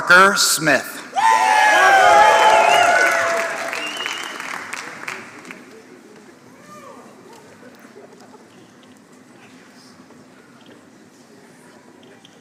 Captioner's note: applause